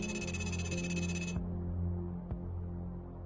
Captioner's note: rapid electronic beeps; gentle music